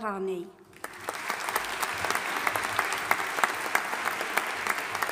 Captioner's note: audience applauding